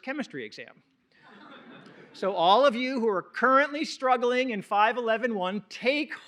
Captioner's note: laughter